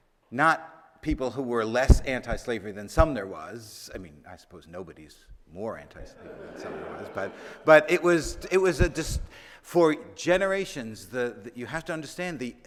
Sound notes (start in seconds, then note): 6.1 audience laughing